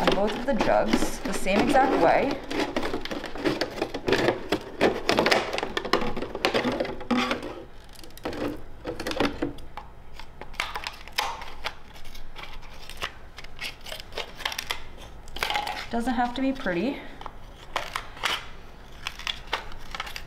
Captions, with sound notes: on both of the jugs the same exact way. (jug crackling) Doesn't have to be pretty.